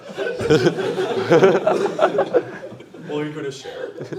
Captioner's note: laughter